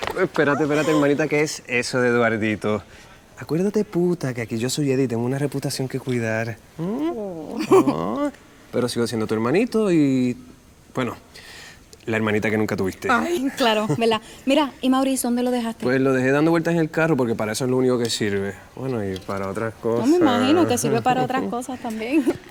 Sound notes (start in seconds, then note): 7.4 Mariana laughs